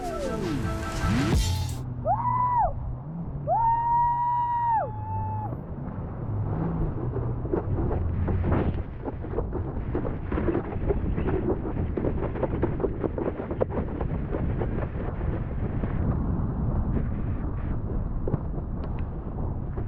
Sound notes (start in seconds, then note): 3.4 excited screaming; 8.5 intense wind blowing; 13.7 board bumping over waves